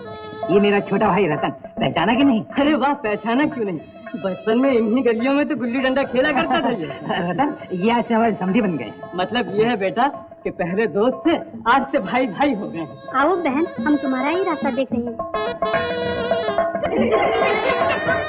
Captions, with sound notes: He is my younger brother, Ratan. Did you recognize him? Yes, why not. He has spent all his childhood here itself. - (Laughs) From today he is our relative. That means previously we were friends and now we are relatives. Welcome sister we were waiting for you. (Laughs)